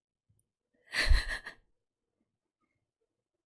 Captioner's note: laughs